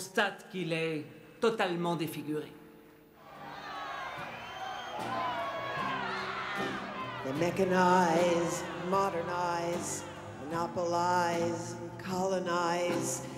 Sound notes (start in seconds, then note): 3.2 crowd shouting; 4.5 guitar strumming